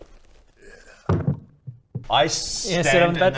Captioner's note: thunk